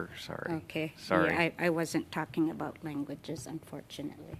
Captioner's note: speaking Indigenous Language